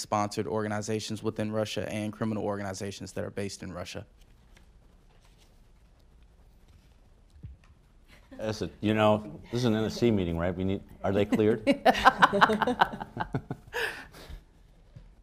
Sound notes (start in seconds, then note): 11.1 laughter